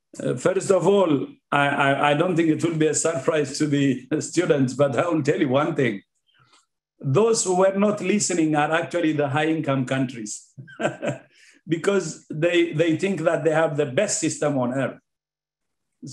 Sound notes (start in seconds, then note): 10.6 laughing